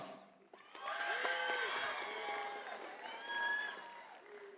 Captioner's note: audience applauding